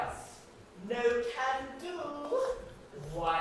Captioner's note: sing-songy